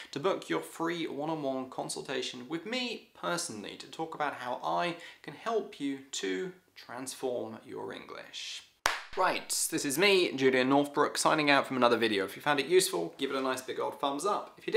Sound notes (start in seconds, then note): 8.8 hands slapping